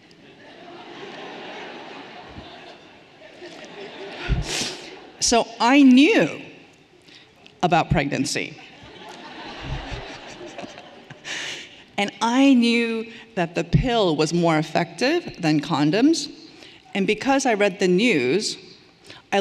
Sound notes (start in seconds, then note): 0.1 everyone laughing lightly